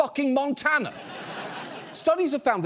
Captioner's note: audience laughs